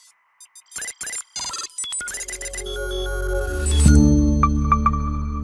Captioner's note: computer chirping